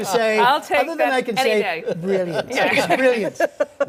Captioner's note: laughter